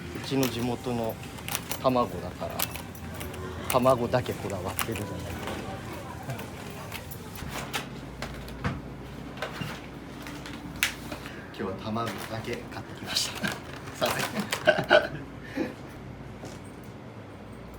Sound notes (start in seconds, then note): 14.0 laugh